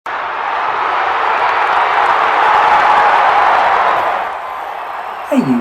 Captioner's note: football Crowd Noise